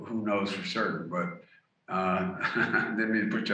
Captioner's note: laughs